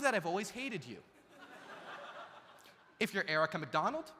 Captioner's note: audience laughs